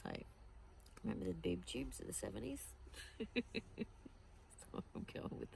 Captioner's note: chuckles